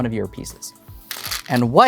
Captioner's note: stones rattling